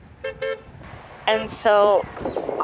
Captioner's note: horn honks